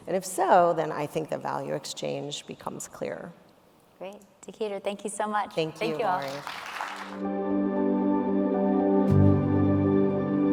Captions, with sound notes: And if so, then I think the value exchange becomes clearer. - Great. Tekedra, thank you so much. - Thank you, Laurie. - Thank you all. (audience applauding) (soft outro music)